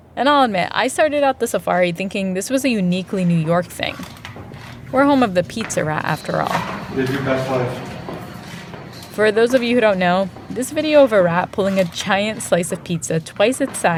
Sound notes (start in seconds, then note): 6.5 soundbite of archived recording